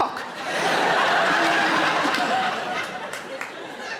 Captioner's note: audience laughing